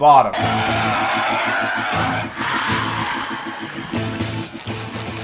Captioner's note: puffy fluffy screams